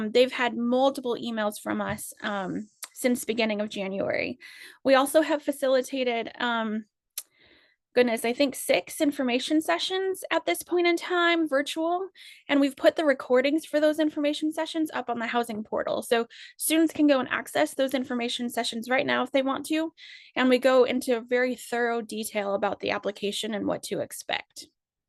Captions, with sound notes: They've had multiple emails from us since beginning of January. We also have facilitated, [lip smack] goodness, I think six information sessions at this point in time, virtual, and we've put the recordings for those information sessions up on the housing portal. So students can go and access those information sessions right now if they want to. And we go into very thorough detail about the application and what to expect.